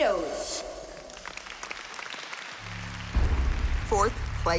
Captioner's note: applause